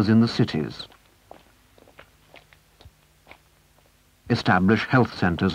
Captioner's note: footsteps